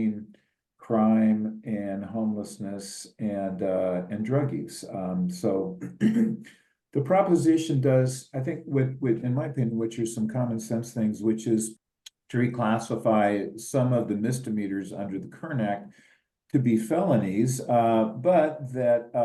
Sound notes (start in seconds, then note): 5.8 cough